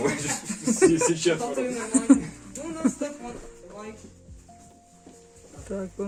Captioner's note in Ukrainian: сміх